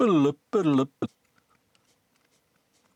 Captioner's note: imitates Beeping